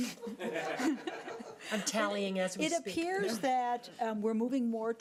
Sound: audience laughing

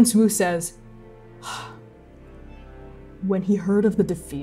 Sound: sighing

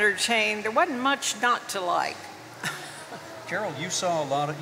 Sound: chuckles

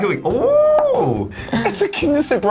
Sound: cheers

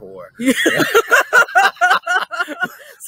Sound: both laugh

